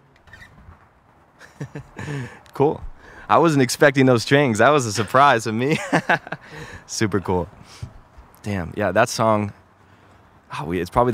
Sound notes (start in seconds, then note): 1.4 laughs; 4.8 laughs